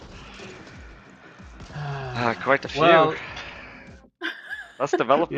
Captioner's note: sighs